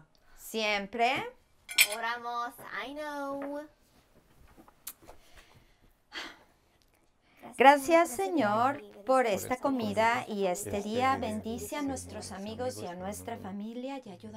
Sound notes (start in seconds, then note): 6.1 abuela sighs